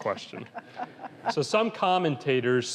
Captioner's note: laughs